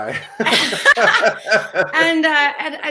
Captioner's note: both laugh